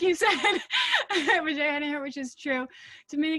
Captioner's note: laughing